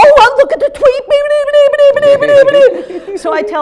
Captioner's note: babbling blah-noises